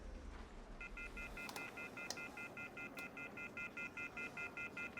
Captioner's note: dial tone beeping